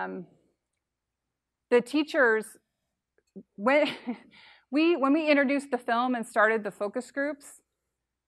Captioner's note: laughs